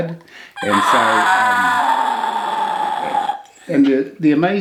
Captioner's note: grunts